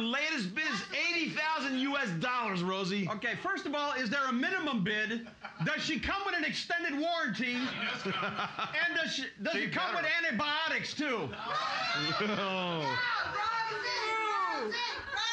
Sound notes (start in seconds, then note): 7.5 loudly laughing; 11.5 audience screaming